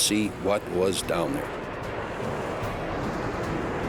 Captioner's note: jet engine noises